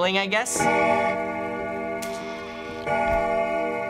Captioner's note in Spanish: Reloj tañendo más fuerte, puerta cruje